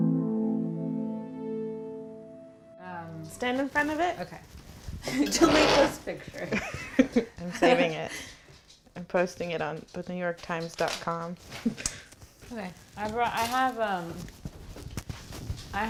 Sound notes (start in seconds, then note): 5.1 laughing